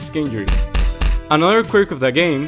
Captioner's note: thud